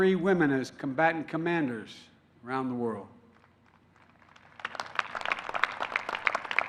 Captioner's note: applause